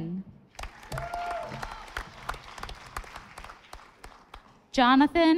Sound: audience applauding

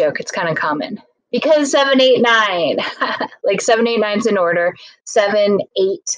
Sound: laughs

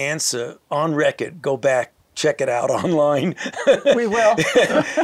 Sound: laughs

